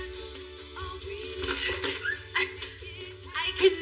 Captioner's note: door r squeaks openen